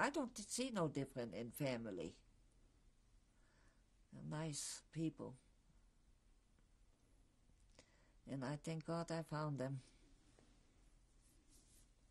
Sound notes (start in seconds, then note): 5.2 pauses for 3 seconds